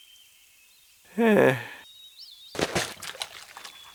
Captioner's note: servant chuckling bashfully